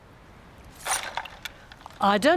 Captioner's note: pottery pieces clatter